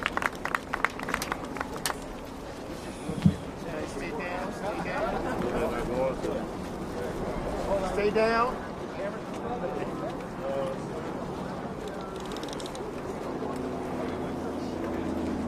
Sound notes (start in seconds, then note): 0.0 applause